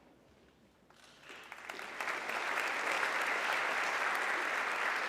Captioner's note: audience clapping